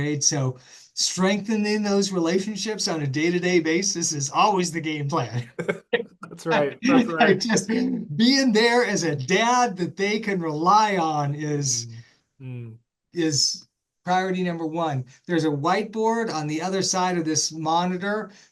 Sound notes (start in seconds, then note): 5.1 laugh